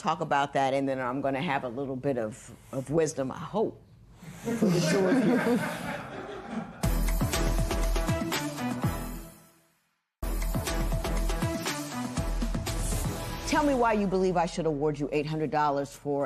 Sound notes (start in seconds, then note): 6.0 laughter